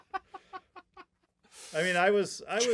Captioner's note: laughing